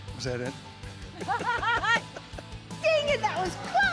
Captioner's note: laughing